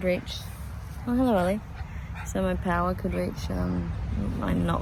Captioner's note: Ollie pants